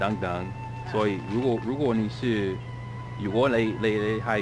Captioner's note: mandarin